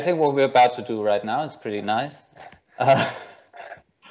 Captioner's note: laughs